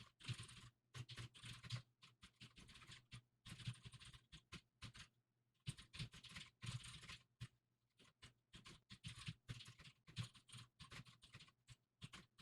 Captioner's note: typing sounds